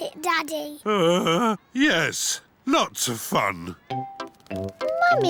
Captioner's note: groans